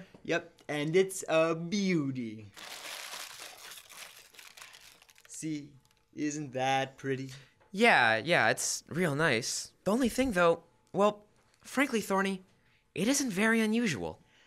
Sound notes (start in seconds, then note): 2.5 sound unwrapping